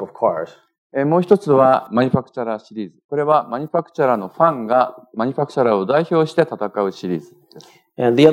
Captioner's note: speaking japanese